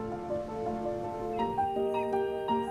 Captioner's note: mellow music; ocean sloshing